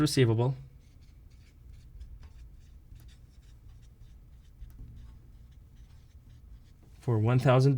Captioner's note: writing